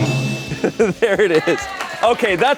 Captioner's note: bell dings